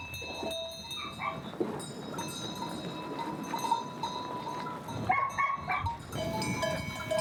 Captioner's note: bell continue clanking; dog barking